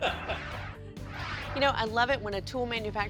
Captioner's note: laughter